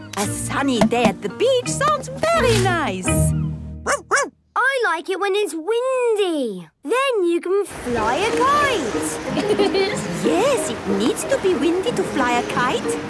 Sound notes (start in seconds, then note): 3.8 barking; 9.2 laughing